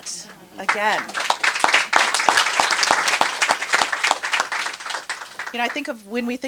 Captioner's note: applause